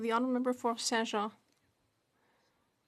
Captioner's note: speaking French